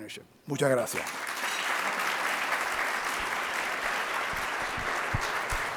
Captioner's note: audience clapping